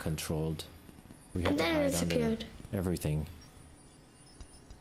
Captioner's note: child's voice